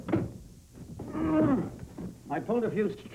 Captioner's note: grunting